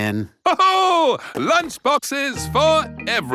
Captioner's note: laughs